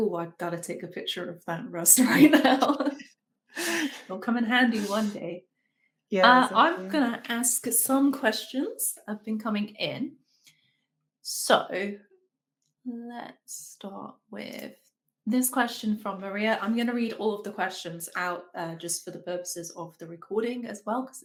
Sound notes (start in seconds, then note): 2.1 women laughing